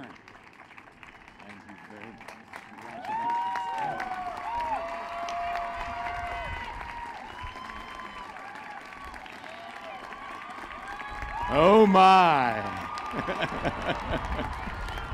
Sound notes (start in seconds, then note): 4.2 applause; 13.0 laughter; 14.2 applause